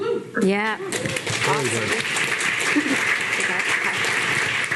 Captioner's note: audience clapping